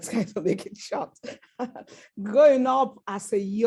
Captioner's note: laughs